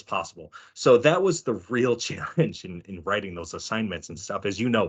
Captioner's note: chuckling